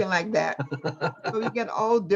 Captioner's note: laughs